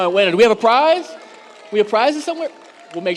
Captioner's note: audience applauds